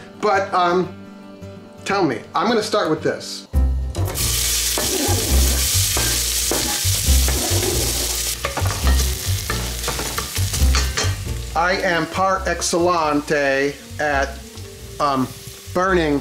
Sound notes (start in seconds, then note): 3.2 sizzling; 7.2 knife scraping